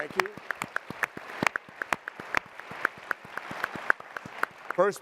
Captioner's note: applause